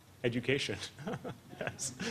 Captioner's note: laughter